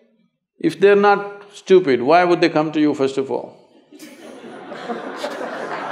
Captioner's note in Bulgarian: смее се; смях/аплодисменти